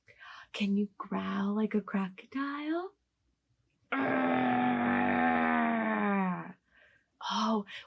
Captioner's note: growling noise